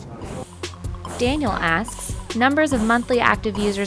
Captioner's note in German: Voice-over